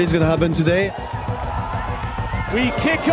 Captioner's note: crowd cheering